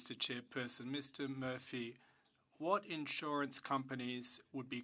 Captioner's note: speaking French